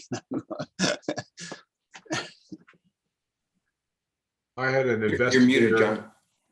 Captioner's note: laughter